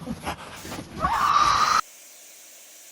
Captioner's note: screeching